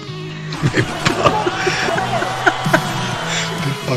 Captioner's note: laughs